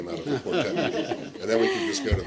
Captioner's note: laughter